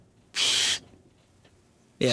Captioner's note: sucking